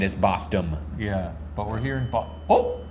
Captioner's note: bell ringing